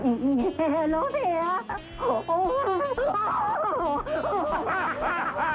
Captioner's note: laughing; both laughing